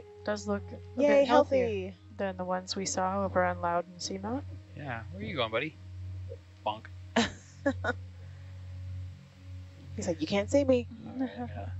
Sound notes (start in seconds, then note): 7.2 woman laughing